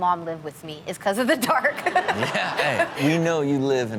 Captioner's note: audience laughs